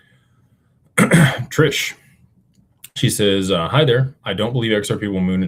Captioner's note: clears throat and cough